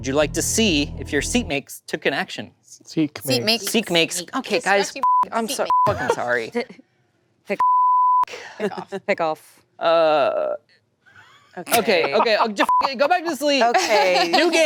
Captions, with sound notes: Would you like to see if your seat makes took an action? - Seat makes. - Seat makes. - Okay guys, (beep) I'm (beep) sorry, (beep). - Frick off. - Frick off. - Okay. - Okay. - Go back to sleep. - Okay.